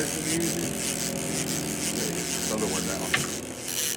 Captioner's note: reel cranking